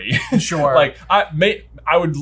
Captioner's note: laughing